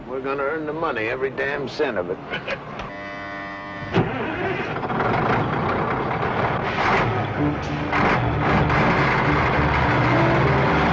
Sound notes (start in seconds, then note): 2.3 Danny chuckles; 3.9 engine sputters and starts; 7.3 engine whirring; 10.7 dramatic music